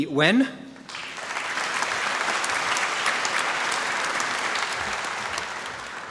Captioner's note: applause